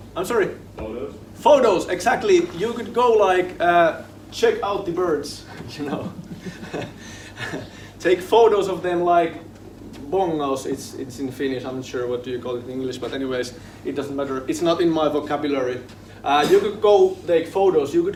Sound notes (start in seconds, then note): 9.8 speaking foreign language